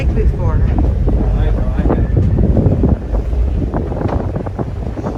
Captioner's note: wind blowing